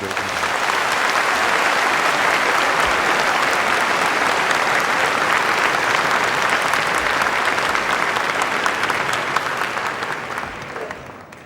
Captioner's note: applause